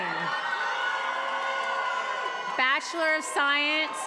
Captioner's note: attendees applauding and cheering